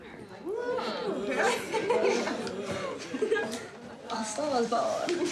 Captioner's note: laughter